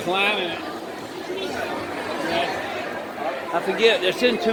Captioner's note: crowd noise